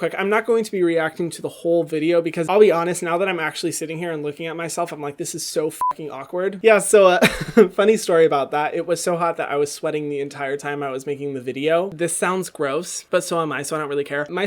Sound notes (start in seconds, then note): 5.8 beep